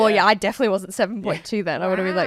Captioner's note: laughing